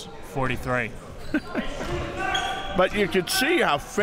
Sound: laughs

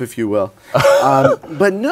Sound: laughs

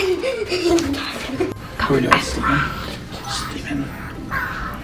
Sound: giggles

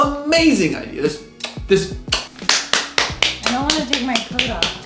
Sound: claps hands

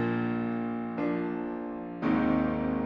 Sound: none

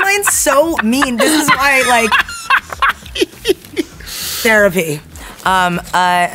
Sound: Jack laughs

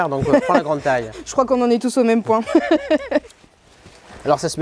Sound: laughs

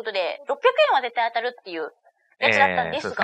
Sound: laughs

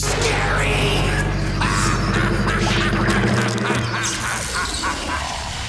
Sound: laughing

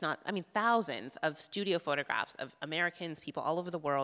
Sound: none

